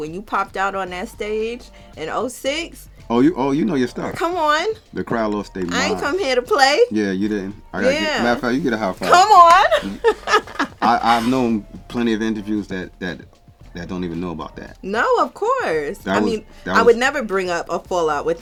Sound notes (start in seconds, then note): 9.0 hands clapping; 10.6 laughing